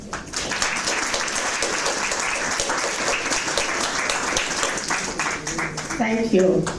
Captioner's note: audience clapping